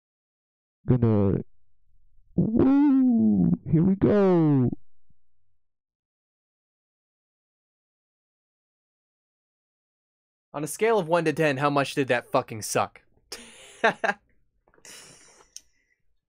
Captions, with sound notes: Gonna... Woo...! Here we go. (normal mic) On a scale of 1-10, how much did that fucking suck? (laughs)